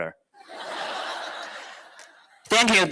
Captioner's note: laughter